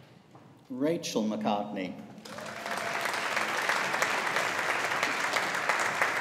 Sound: audience applauding

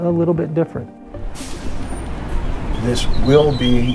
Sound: bus brakes releasing

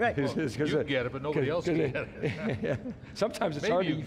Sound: laughs

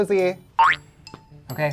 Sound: loud boink

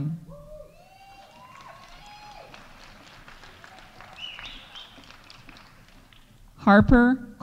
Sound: audience cheering; audience applauding

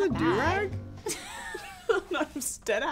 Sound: laughing

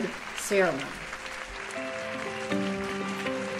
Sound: audience applauding; gentle music

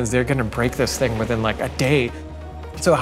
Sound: none

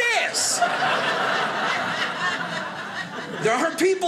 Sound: audience laughing

